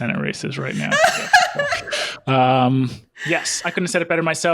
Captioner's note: laughs